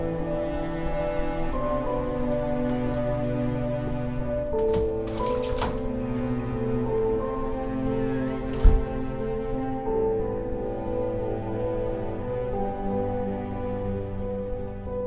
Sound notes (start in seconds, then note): 5.1 door squeaks open; 8.4 door closes